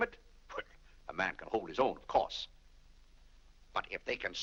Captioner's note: laughs